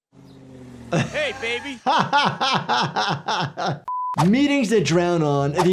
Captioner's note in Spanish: el doctor se ríe